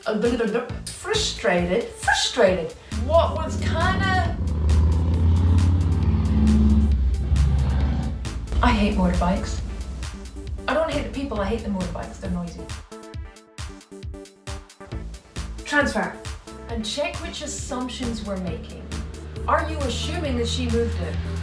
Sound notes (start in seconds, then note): 2.8 motorcycle engine; 5.1 engine revving; 12.7 upbeat music